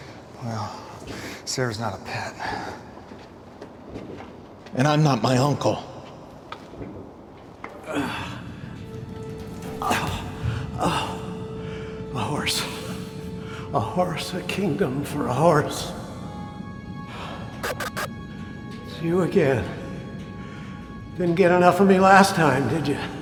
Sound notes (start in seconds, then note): 17.4 solemn music; 17.4 lights buzzing